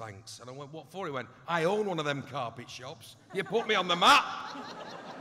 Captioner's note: laughter